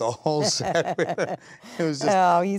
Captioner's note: laughing